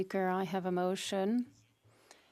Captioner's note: speaking French